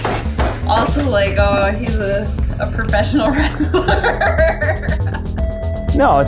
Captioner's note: laughing